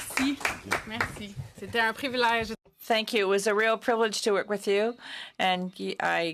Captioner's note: applause